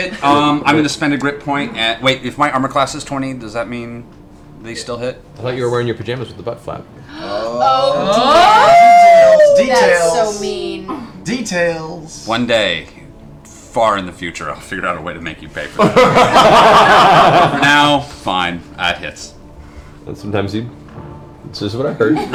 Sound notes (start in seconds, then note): 15.8 laughter